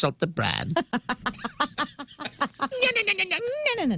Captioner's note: laughter